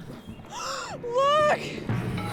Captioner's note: gasps